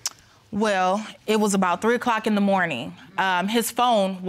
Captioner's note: clicks tongue